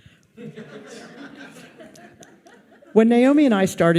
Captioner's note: audience laughs